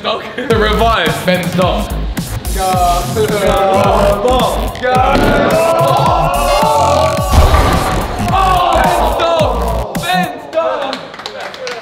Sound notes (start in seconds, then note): 5.9 lads cheering